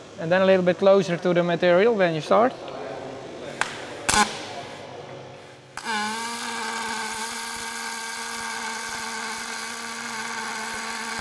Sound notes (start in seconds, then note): 5.7 welding machine starting